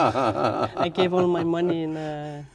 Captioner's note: laughing